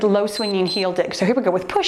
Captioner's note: timer beeps